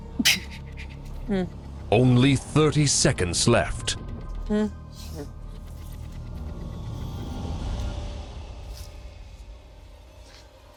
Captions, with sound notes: Only 30 seconds left. (dramatic music continues) (people humming)